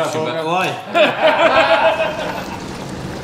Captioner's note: laughs